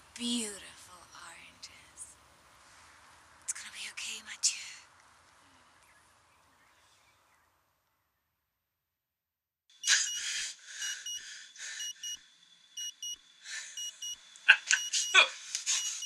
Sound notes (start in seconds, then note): 10.1 watch beeping; 14.4 laughs